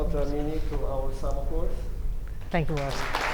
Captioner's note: applause